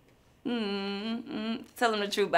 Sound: hums

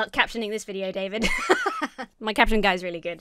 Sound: laughs

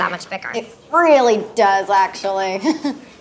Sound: chuckles

